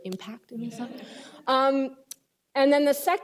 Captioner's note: laughter